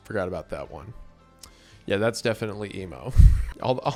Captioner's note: clicks tongue